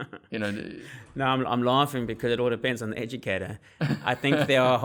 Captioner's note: laugh